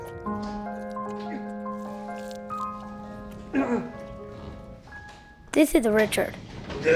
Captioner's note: grunting